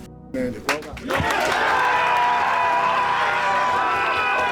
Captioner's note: cheering